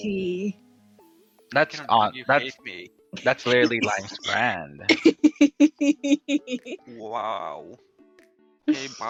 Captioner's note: laughs